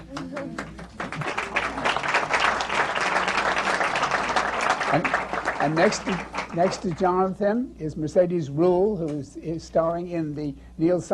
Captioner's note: applause